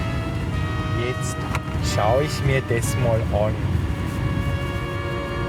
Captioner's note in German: Mit österreichischem Akzent